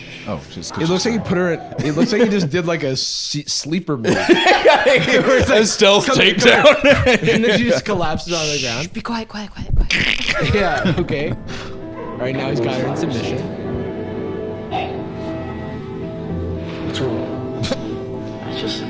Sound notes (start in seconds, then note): 4.0 laughing